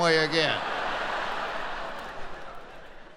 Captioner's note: laughing